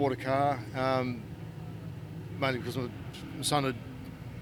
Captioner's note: none